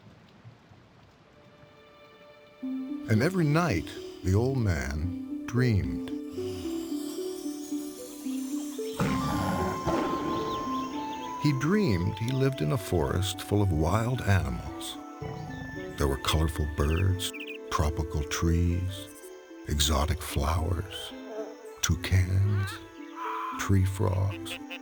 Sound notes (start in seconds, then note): 0.1 gentle orchestral music; 0.1 rain pouring; 6.2 gentle orchestral music; 6.2 old man snoring